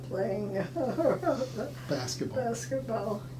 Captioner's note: laughing